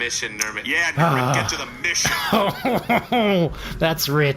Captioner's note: shouting